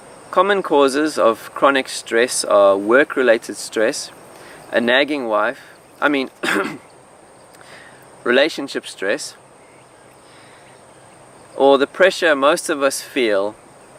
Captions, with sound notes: Common causes of chronic stress are work-related stress, a nagging wife, I mean… (cough) relationship stress, or the pressure most of us feel